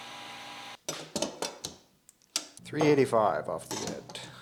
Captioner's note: measuring tool clinks onto table